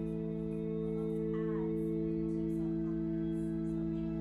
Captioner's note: low chatter